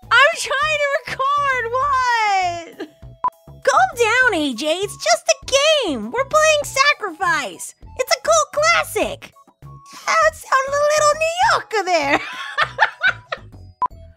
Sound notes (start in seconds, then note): 12.1 laughs